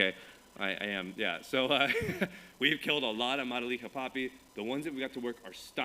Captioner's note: chuckles